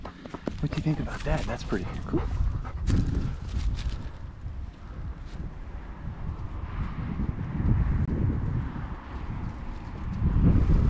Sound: laughing

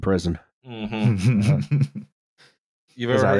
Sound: chuckles

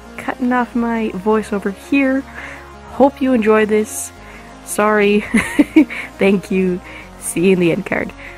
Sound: giggles

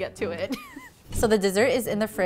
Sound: giggling

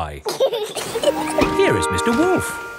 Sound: both laughing

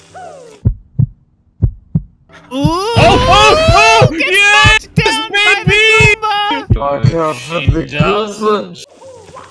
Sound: heart beating

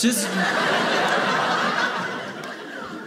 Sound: audience laughing

